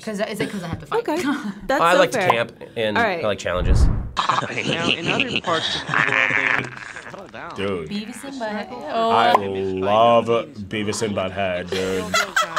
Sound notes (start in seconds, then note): 5.4 Beevis and Butthead chuckling